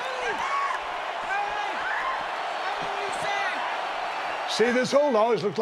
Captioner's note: crowd continues cheering